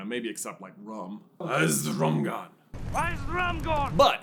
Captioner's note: drunkenly